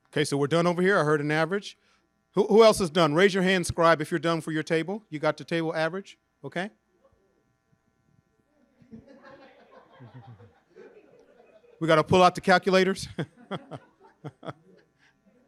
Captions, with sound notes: Okay. So we're done over here? I heard an average. Who else is done? Raise your hand, scribe, if you're done for your table, you got the table average. Okay. (group laughing) We gotta pull out the calculators. (laughs)